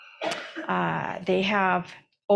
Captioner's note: attendee coughs